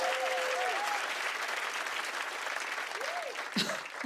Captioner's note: cheers and applause